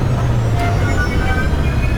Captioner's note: rumbling